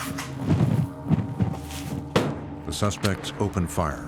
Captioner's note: gunshots